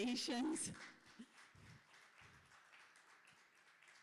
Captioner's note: applause